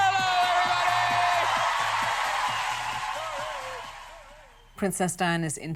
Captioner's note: crowd cheers loudly